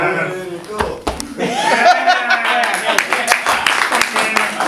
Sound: laughter and clapping

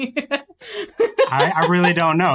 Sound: giggles

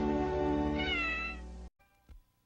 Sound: Mimsie mewing

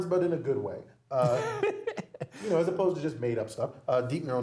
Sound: laugh

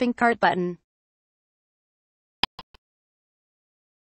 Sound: click sound

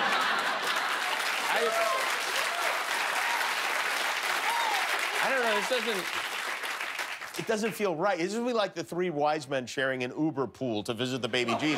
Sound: laughter; cheers and applause

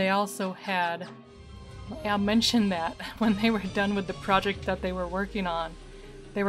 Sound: laughing

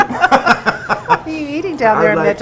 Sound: laughing

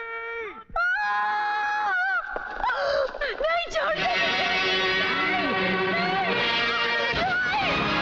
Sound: screams

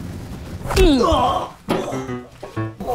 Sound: grunts

